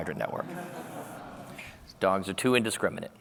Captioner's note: laughter